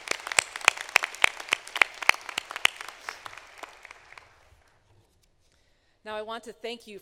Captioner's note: applause